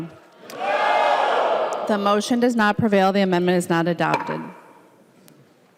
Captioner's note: chorus of ayes